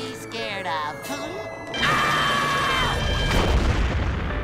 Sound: screaming

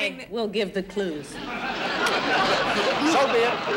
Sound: audience laughing

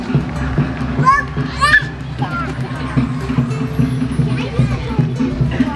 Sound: baby shrieking

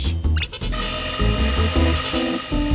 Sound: motor whirring

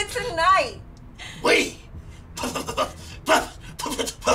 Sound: stammering

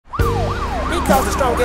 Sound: police sirens

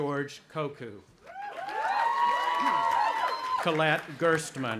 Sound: audience applauding and cheering

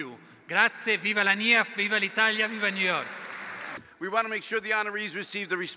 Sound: speaking italian

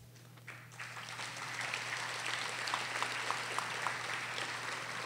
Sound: audience applauding

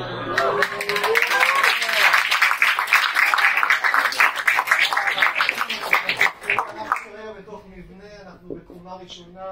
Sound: crowd Cheering

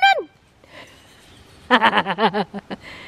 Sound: laughs

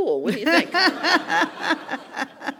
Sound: laugh

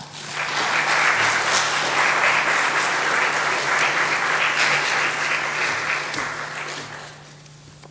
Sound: audience applauds

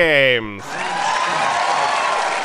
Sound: applause

